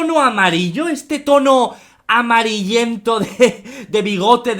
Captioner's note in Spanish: risas